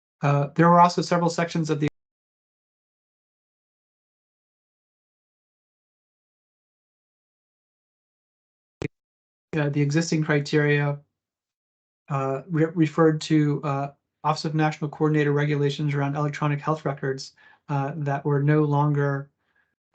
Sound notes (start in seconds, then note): 2.1 no audio